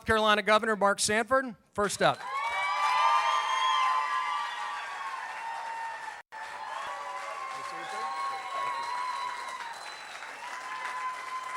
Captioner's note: cheering